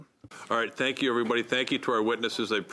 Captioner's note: speaking French